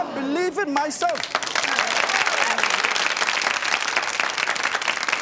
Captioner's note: crowd cheering